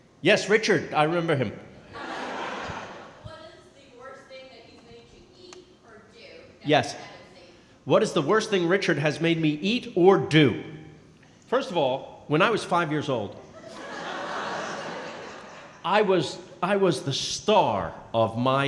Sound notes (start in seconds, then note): 1.9 laughing; 6.7 speaking softly